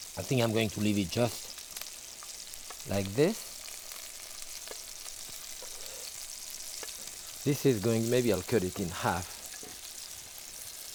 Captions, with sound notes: I think I'm going to leave it just like this. (sausages sizzling) This is going, maybe I'll cut it in half,